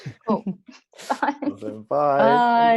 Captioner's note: laughs